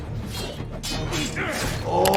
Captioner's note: Wolverine grunts; blades slice; blades clash; Wolverine grunts